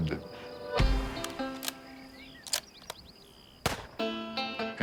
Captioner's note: gun cocks and fires